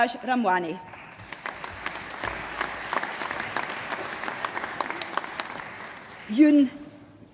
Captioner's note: applause